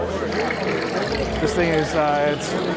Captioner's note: electronic rattling